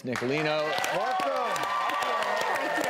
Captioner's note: audience cheers